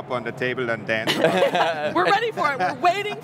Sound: all laughing loudly

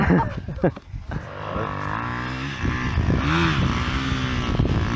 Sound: laughs; engine revving

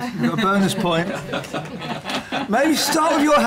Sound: laughter

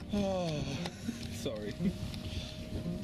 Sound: sighs

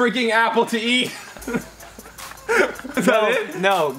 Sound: laughs

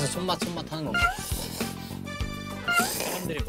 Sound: slurping once

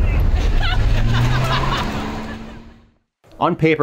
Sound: laughing

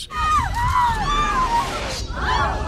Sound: screaming; crowd gasps

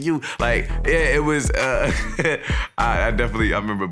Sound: laughing

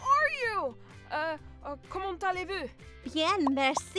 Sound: speaking in French

